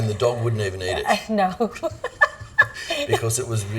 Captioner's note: giggling